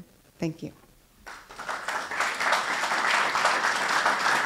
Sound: applause

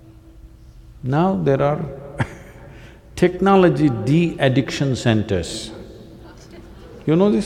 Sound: laughs

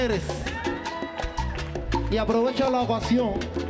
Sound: audience cheering

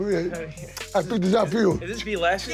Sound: kissing Sound

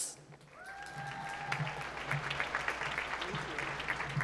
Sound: applause

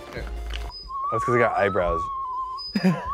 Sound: whimsical music; Link blows whistles; Link blows whistle

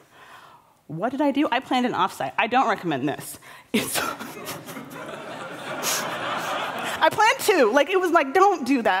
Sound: laughter

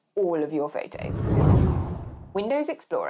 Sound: whooshing

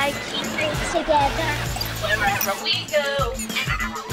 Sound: distorted voice

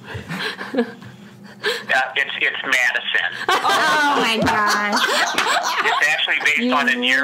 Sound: laughs

